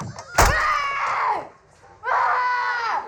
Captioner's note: screams